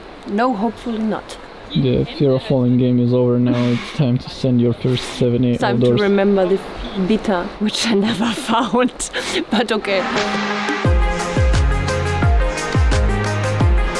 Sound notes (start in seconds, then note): 9.1 laughs; 10.0 upbeat electronic music